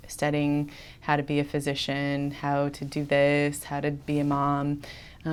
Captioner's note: none